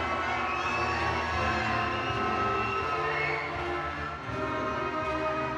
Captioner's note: audience cheering